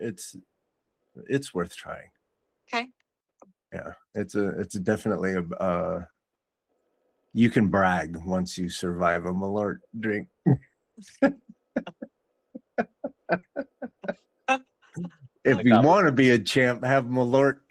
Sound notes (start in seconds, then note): 12.6 laughter